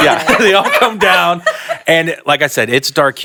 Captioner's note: panelists laughing